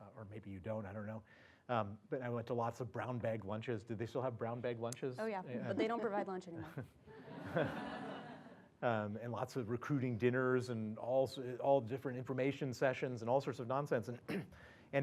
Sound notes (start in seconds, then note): 7.2 laugh; 14.2 cough